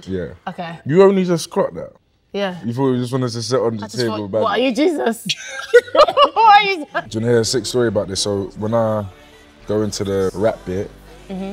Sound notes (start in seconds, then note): 5.2 laughing